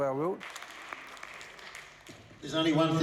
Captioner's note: applause